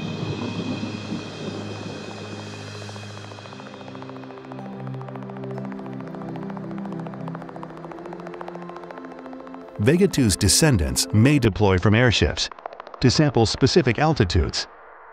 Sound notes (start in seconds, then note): 0.0 thunder rumbling; 2.4 gentle music; 2.4 propellers clicking